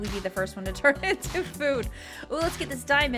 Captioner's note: chuckling